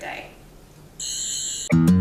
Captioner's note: Sonic Screwdriver noise; outro music